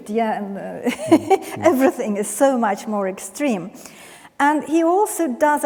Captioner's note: laughs